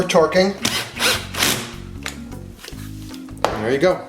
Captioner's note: drill turning